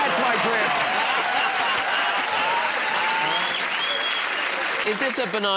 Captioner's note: laughter